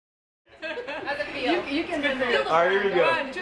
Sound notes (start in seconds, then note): 0.6 background Discussion